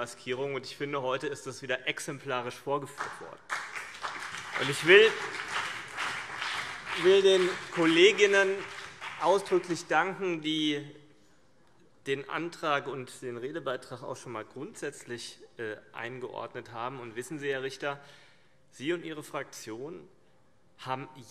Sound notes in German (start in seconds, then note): 3.4 Beifall CDU und BÜNDNIS 90/DIE GRÜNEN